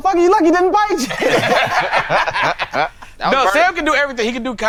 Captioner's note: all laughing